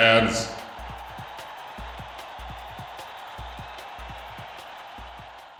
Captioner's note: crowd cheering